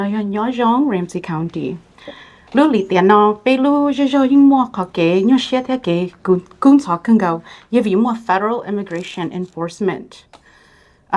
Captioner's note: Speaking in Hmong